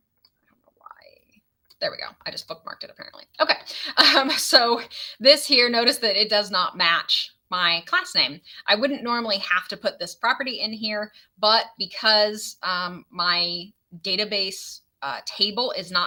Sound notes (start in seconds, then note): 3.5 laughs